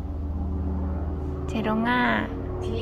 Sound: aircraft noise

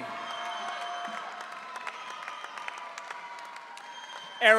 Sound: audience cheering

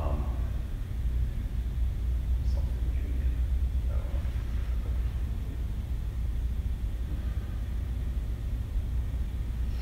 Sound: whispers

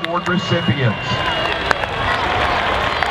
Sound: cheering

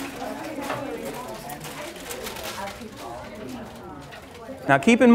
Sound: classmates talking, trading

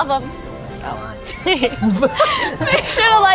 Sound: laughing

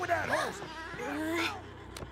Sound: gasps

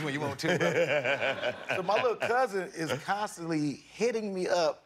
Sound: laughter

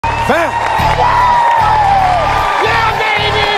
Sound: loud cheering

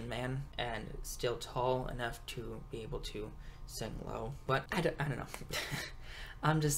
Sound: laughs

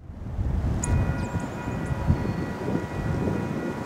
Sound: crossing Bells in the distance

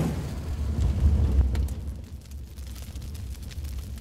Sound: whooshing; flame burning

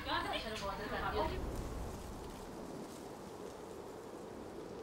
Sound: wind whooshing

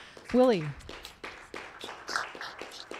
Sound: applause

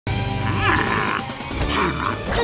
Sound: grunting

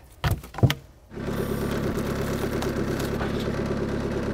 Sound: motor rumbling

